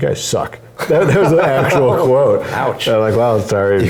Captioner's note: laugh